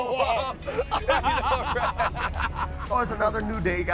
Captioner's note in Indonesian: Ketawa